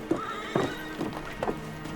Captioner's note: horses neigh at a distance